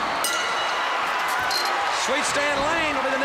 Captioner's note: bell ringing